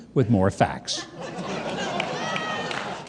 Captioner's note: audience laughing, clapping